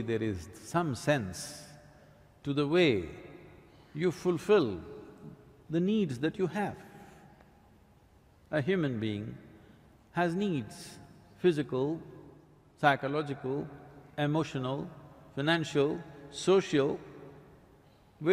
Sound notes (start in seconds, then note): none